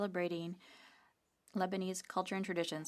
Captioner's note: speaking French